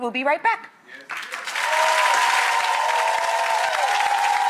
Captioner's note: audience cheers